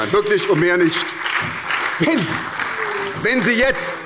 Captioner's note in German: Heiterkeit und Beifall bei der SPD